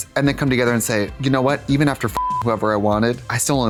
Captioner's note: beep